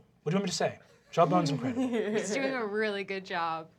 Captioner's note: laughter